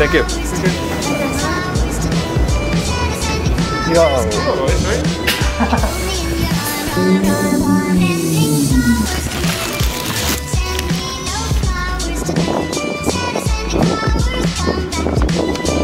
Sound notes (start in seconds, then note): 8.7 crinkling; 13.7 wind blows hard